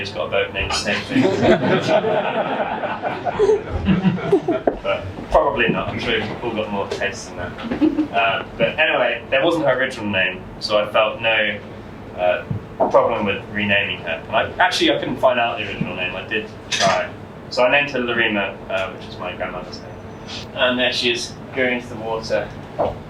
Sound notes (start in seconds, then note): 2.9 laughter